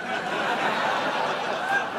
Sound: laughter

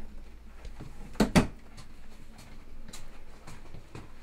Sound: door thudding

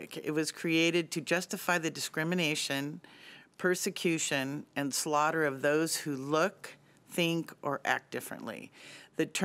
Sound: none

